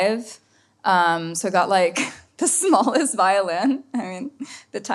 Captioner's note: laughs